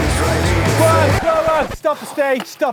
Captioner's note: record scratching